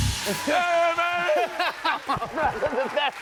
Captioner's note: laughs